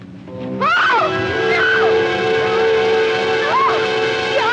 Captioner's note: screams